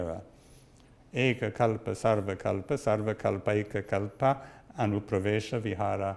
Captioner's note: speaks in Sanskrit